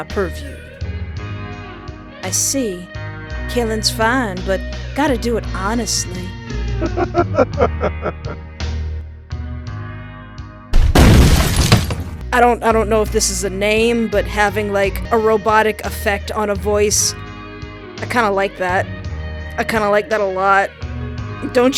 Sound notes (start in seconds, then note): 6.7 sexy robot laughter